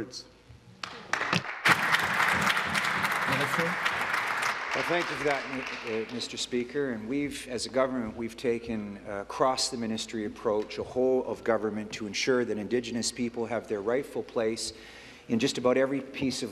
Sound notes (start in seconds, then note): 5.0 applause